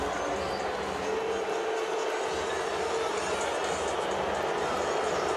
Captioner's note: booing